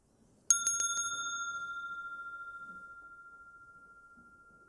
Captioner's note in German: Mooji klingelt das Glöckchen